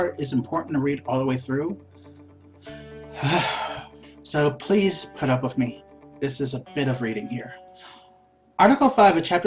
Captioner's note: sigh